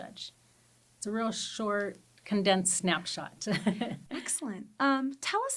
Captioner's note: chuckles